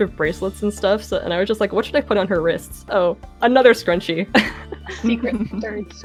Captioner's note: laughs; giggling